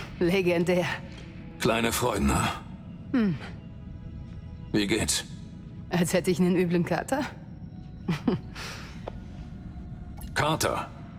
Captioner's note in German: gelächter